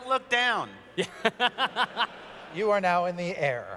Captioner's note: laughter